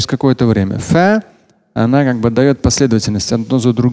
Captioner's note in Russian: Говорит на арабском